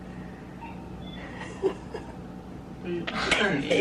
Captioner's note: giggling